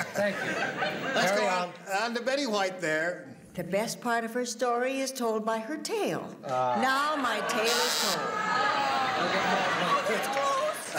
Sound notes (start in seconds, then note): 8.2 groans